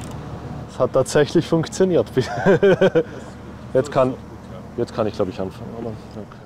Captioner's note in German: lacht